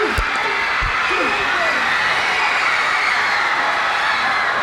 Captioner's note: crowd cheers